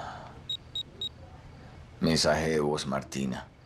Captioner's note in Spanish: Bip